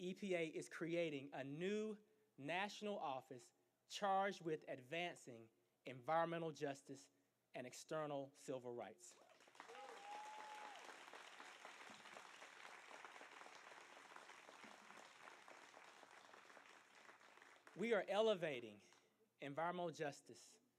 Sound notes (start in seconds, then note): 9.2 applause